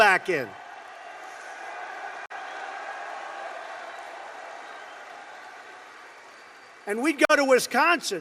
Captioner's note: applause